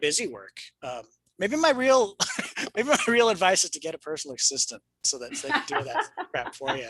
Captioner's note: laughs